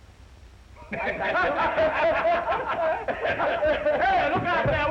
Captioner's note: all laughing